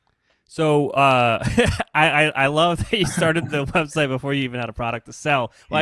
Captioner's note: laughs